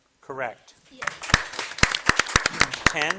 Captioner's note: audience applauding